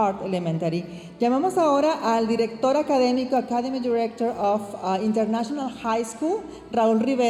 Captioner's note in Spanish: hablando en inglés